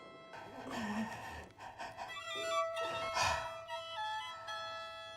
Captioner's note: Dr. Gladstone breathes heavily